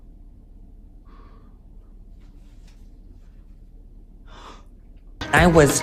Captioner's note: sighs dramatically